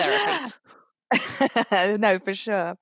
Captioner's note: laughs